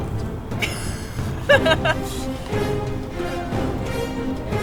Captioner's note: laughs